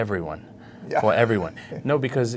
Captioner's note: laughs